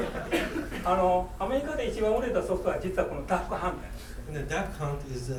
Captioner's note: coughing; speaking in foreign language